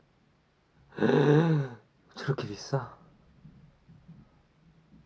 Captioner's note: gasps